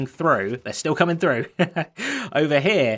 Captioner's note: chuckles